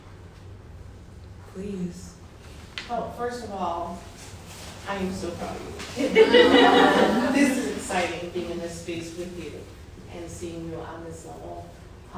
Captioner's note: laughter